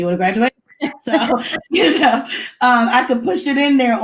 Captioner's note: laughs